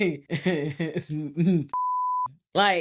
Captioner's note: laughs; beep